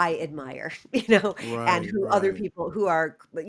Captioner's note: laughter